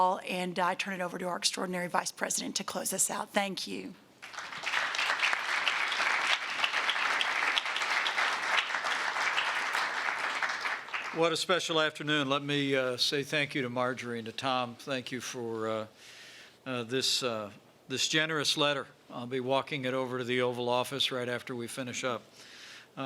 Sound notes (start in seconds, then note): 4.2 applause